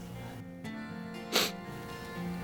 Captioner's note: Tom sniffs